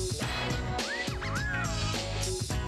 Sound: wolf whistle

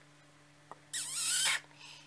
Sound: kisses

